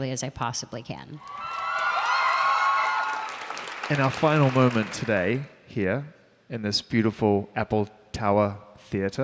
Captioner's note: applause